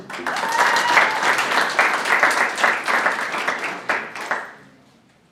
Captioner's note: audience applauding and cheering